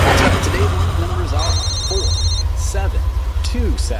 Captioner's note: phone ringing